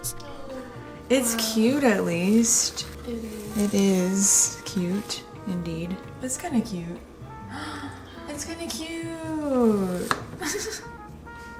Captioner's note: gasps